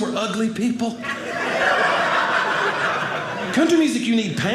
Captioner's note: audience laughing